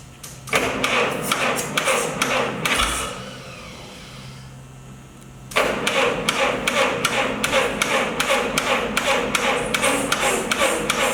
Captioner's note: engine cranking